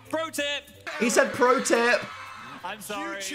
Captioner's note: crowd cheering